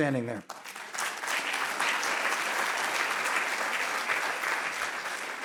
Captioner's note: audience clapping